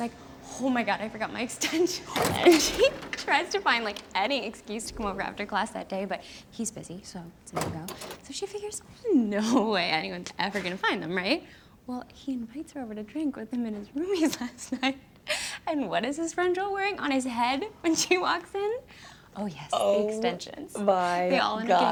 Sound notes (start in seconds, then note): 15.3 laughs